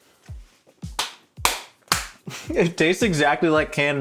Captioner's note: applauds